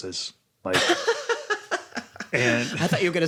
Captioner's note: laughs